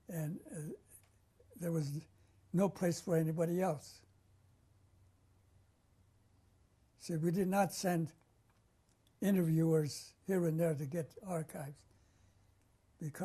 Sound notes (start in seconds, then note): 4.0 pauses for 3 seconds